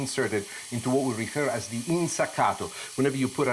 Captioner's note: speaks foreign language